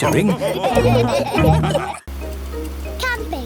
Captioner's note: all laughing